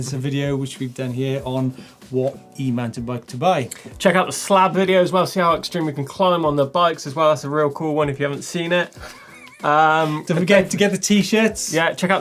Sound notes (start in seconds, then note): 9.0 laughs